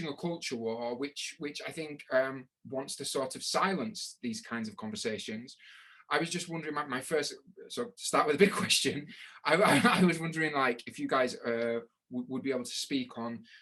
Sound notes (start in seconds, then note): 9.4 laughing